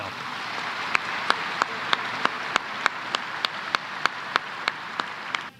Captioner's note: applause